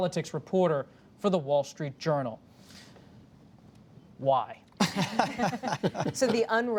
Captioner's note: laughter